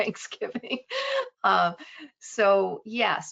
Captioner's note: laughing